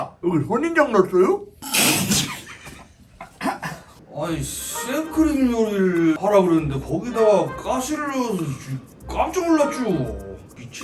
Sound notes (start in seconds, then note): 1.6 laughing as the judge praises his psychopathy